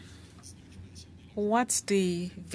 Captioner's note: speaking French